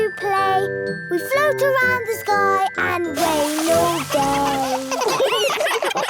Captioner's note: clouds giggling; giggling